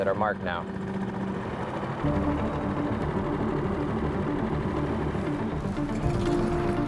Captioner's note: motor droning; suspenseful music; suspenseful music continues; traffic droning